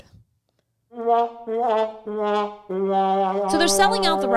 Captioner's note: sound effects